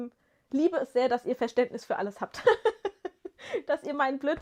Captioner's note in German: gelächter